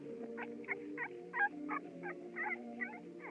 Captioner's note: whimpering